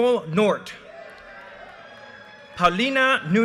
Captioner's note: audience cheers and applause